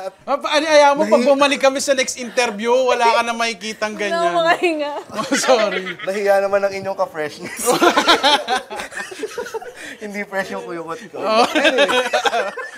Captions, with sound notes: Don't worry. The next time we interview you, you won't - experience that anymore. - I can't breathe. That was so embarrassing! [LAUGHTER] - She grazed my butt crack. - [LAUGHS]